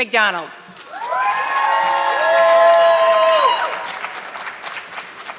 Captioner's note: audience clapping